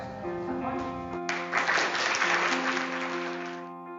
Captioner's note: applause